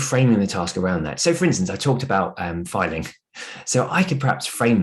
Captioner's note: chuckles